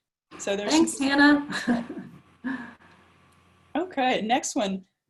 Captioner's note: laughs